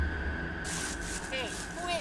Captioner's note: leaves crunching